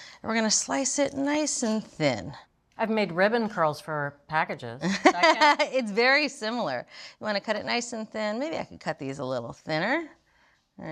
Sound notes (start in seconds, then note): 4.9 laughing